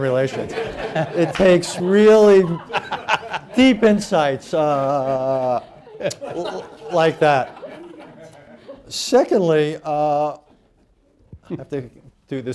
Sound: laughter

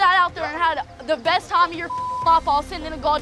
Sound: beep

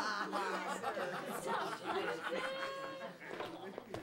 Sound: kids laughing

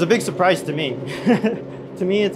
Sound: laughs

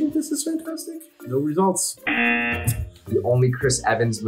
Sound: buzzer rings

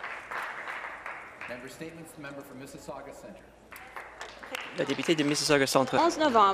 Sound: applause

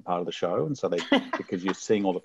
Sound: laughing

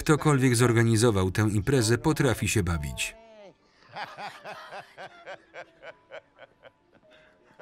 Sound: laughs

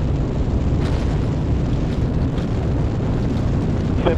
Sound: rockets ignite

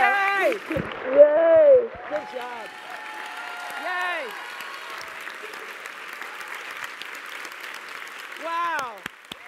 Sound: applause

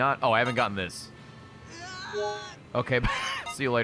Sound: screams; laughs

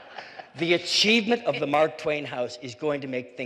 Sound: laughter

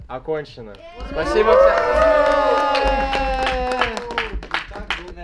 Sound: rejoicing and clapping

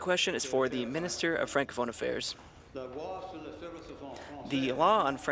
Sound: speaking in French

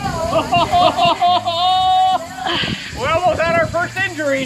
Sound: happily exclaiming

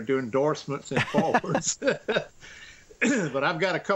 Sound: laughs

